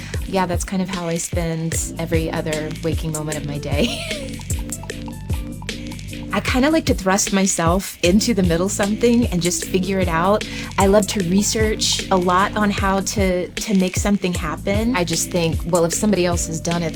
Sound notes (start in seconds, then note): 3.8 laughs